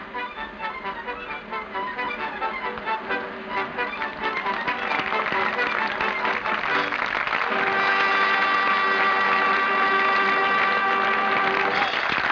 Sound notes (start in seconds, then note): 4.4 applause